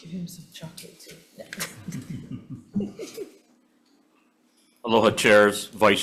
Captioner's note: laughs